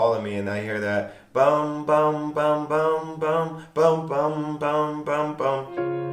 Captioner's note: imitates piano of " "